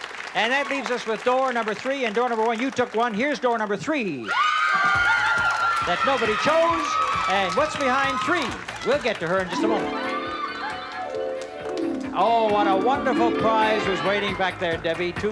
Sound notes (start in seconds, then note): 4.2 screams